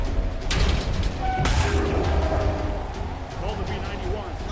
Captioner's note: loud banging